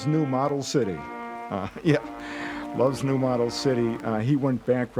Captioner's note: chuckling